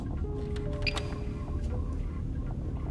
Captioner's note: peep